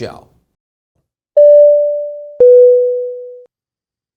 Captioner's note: beeping